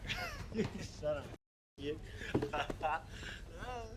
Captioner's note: laughing